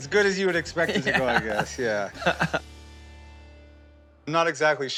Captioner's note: chuckling